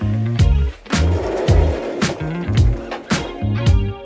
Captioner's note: door closing